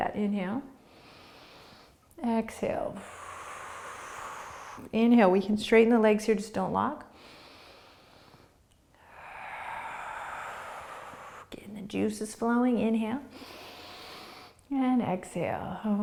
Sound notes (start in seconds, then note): 0.9 inhaling; 2.9 exhaling; 7.3 breathing; 13.3 inhaling